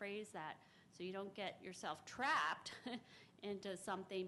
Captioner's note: chuckes